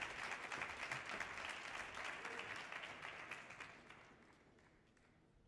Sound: audience applause continues

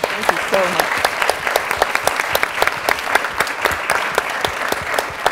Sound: audience clapping

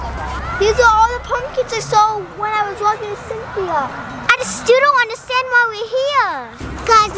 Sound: none

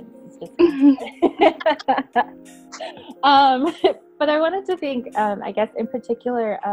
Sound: laughing

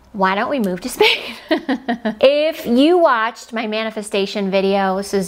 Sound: giggles

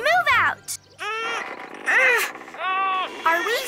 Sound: all grunting

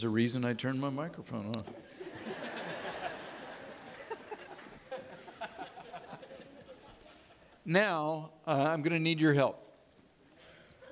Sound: audience laughing

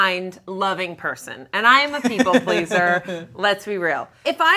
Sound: laughing

